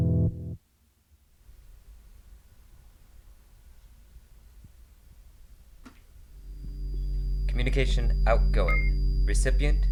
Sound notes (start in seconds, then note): 6.3 droning noise